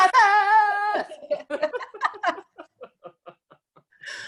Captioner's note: both laughing